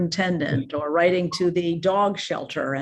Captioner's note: chuckles